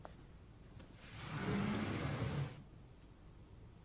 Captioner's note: doors slides open